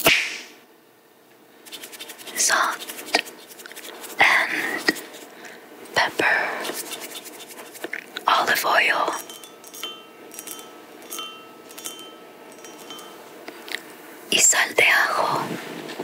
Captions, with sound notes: (celery snapping) (shakers rattling) Salt and Pepper. Olive oil. (dish clinking lightly) Y sal de ajo.